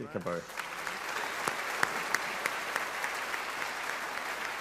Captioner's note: audience applauding